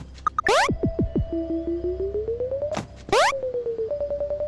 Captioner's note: switch beeping